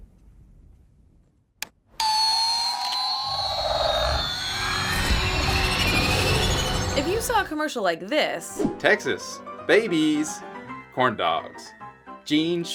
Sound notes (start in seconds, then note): 2.0 sudden, jarring electronic sounds from a toy spaceship shatters the silence; 8.6 carnival music plays